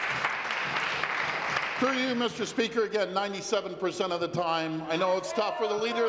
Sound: applause

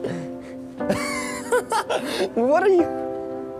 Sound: laughing

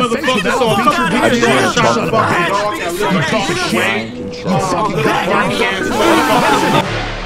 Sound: incoherent yelling

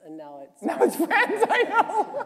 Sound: laughter

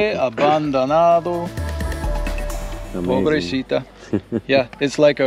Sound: laughs

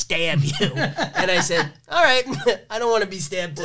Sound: laughs

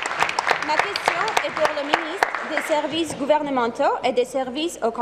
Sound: applause

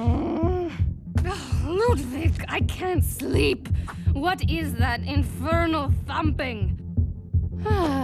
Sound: thumping

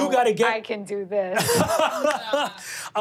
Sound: laughing

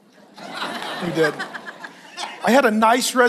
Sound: congregation laughs

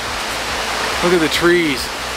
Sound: wind blowing

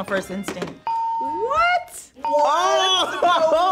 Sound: buzzer rings; bell rings

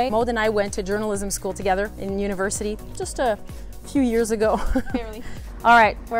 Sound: laughs

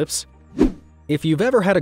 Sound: transitional wipe-screen rushing sound

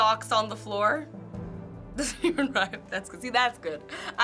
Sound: laughing

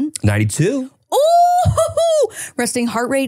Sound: chuckles

